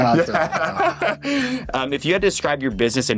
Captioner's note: all laughing